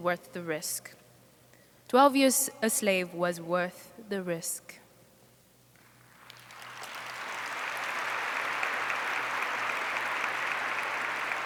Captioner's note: applause